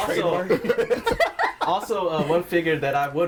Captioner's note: all laughing